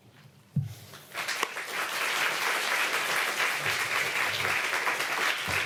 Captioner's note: applause